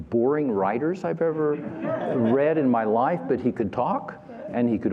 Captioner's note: laughter